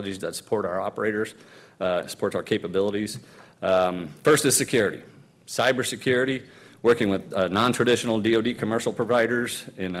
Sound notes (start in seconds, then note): none